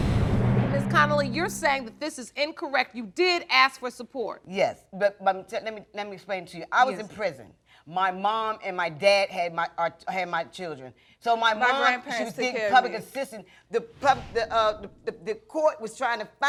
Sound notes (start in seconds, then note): 4.1 stammers; 13.2 stuttering